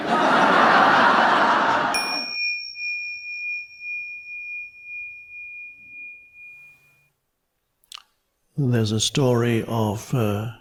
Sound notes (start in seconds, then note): 0.0 audience laughing; 1.9 bell dinging